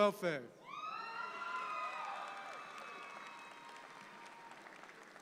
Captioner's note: audience applauds